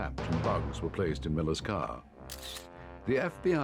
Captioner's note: camera lens clicking